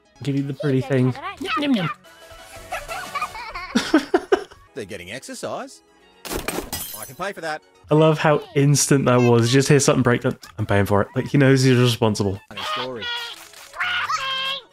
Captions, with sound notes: Give you the pretty thing. Yum yum yum! [Laughter] "They're getting exercise!" "I can pay for that." I love how instant that was. You just hear something break. I'm paying for it. Like he knows he's responsible. "Feed me! Square thing!"